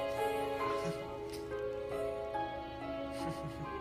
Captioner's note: laughs